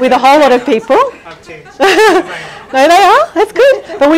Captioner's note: laughing